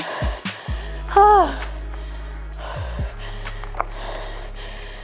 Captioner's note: breathes heavily